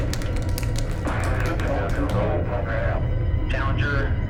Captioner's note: indistinct chatter